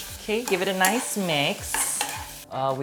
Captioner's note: spoon clings